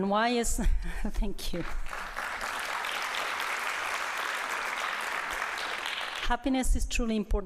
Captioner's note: applause